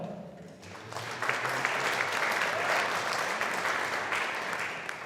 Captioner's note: audience applauding